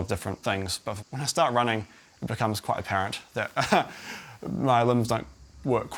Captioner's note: chuckles